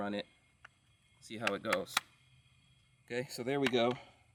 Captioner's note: tapping